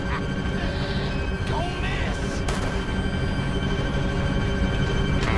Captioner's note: laughs